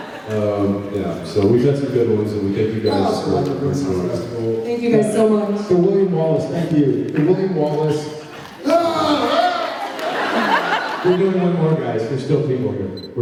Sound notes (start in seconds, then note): 10.1 laughs